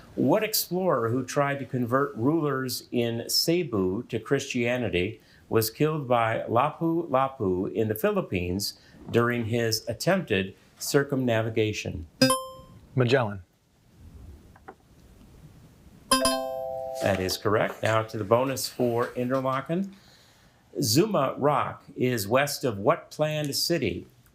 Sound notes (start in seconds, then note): 12.2 buzzer ringing; 16.1 bell ringing